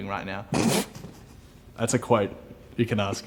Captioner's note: laughing